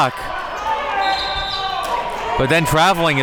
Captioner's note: whistle blows